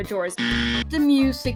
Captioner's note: wrong buzzer